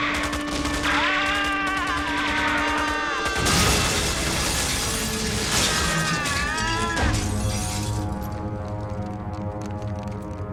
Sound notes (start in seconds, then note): 0.6 screaming